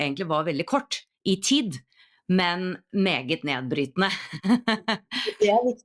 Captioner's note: laughs